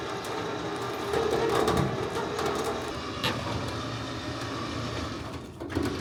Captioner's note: machine whirring continues